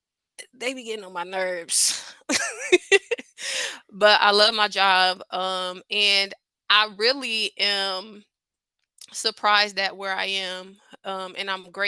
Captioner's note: laughs